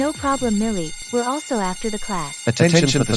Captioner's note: school Bell Alarm